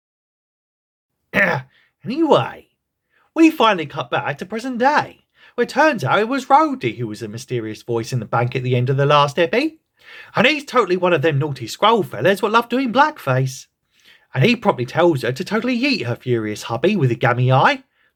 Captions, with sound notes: *Ahem*, Anyway… We finally cut back to present day, where turns out it was Rhodey who was the mysterious voice in the bank at the end of the last eppy, and he’s totally one of them naughty Skrull fella’s wot love doing blackface, and he promptly tells her to totally yeet her furious hubby with the gammy eye,